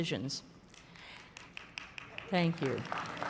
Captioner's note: applause